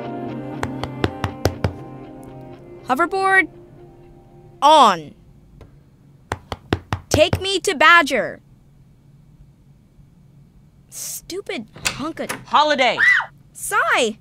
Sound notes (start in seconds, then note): 0.8 Knocking; 6.3 Knocking